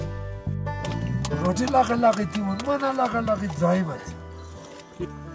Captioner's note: tibetan dialect